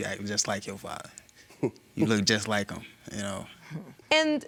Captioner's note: chuckles